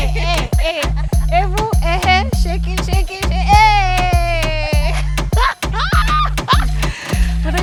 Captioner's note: laughter